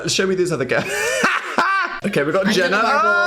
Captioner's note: Dan laughs